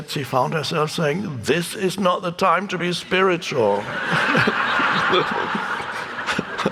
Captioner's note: audience laughing